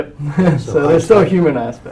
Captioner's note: laugh